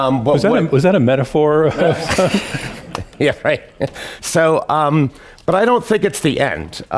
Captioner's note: laughter